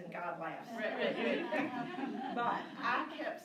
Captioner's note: laughing